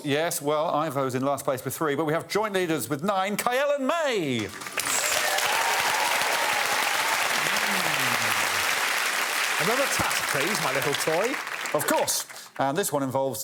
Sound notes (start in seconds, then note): 4.4 cheering and applause